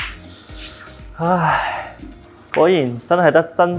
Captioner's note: sigh